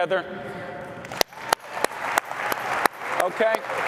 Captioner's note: applause